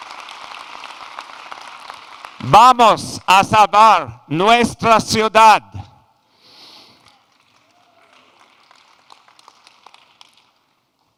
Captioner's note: applause